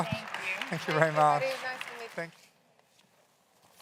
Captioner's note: claps